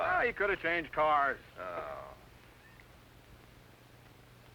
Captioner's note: groans